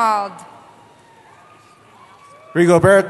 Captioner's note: cheering